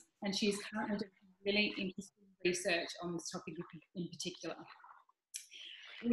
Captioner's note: audio glitches